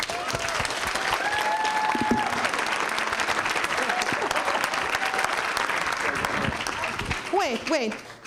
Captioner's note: applause